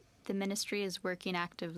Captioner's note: speaking French